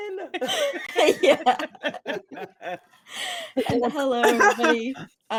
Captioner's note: cast laughing